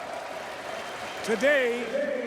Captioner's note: crowd cheering